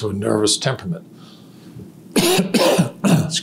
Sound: coughs

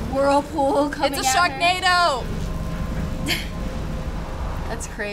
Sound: chuckling

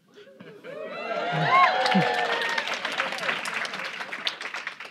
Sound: audience cheering

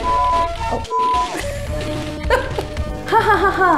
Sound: laughs

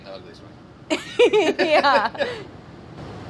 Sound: laughing

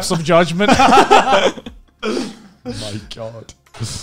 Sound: men laughing

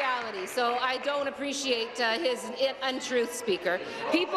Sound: applause

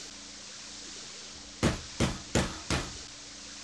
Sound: slams fist on desk

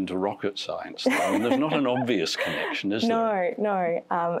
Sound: laughter

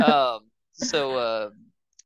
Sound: both laughing

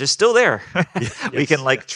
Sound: group laughing

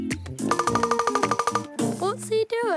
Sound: pecking

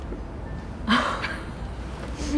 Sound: laughs

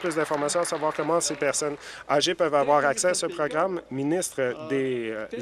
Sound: some Applause

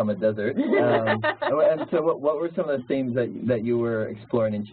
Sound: laugh

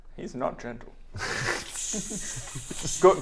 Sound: hissing laughter

